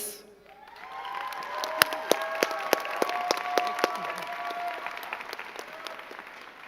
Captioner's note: crowd cheering and clapping